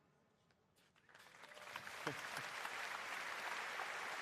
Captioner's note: applause